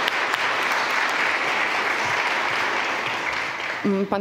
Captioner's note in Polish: oklaski